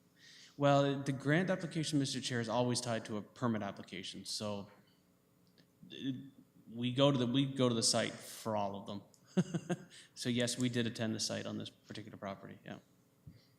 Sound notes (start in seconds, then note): 9.2 chuckles